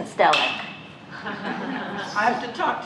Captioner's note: laughter